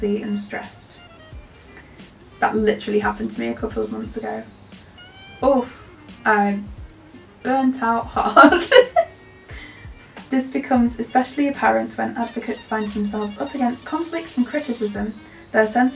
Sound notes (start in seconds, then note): 8.4 laughs